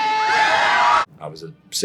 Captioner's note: kids cheering